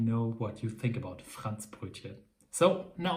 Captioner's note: speaks in foreign language